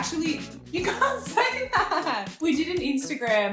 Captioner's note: laughing